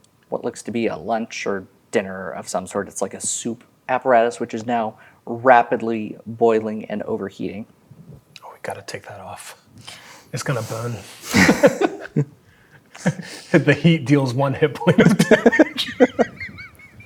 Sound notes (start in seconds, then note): 11.2 laughing; 14.8 laughing